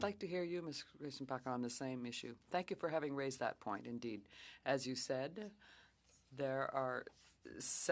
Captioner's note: speaking French